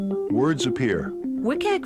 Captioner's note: voiceover